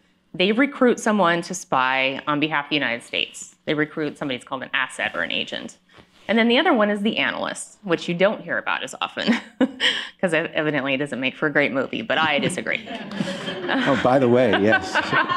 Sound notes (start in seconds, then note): 9.3 laughs; 12.2 laughter